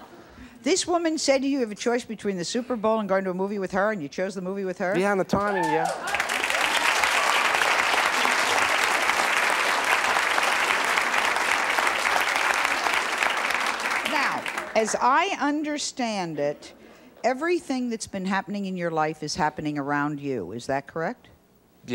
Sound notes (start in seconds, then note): 8.1 audience applauding